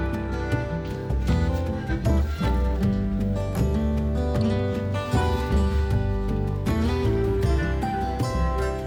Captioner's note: laughs